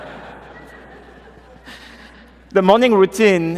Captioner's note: laughter